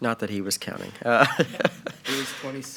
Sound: giggling playfully

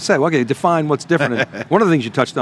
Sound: laughs

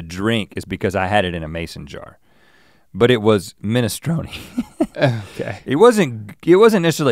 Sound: chuckles

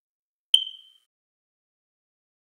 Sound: chirp

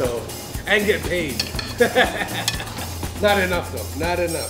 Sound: chuckles

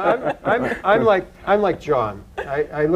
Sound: laughter

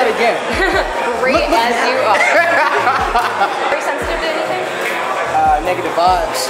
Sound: laughing

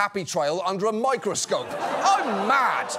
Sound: audience laughs

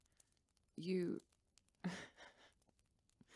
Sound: he laughs sadly

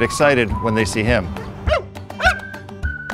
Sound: barking

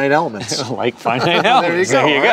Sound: laughs

